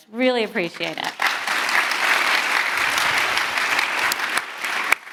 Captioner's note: audience applauding